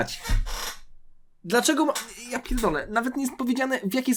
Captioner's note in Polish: parsknięcie